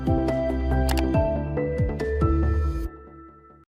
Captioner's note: mouse clicking